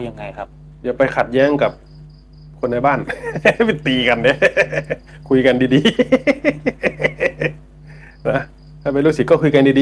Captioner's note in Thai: เสียงหัวเราะ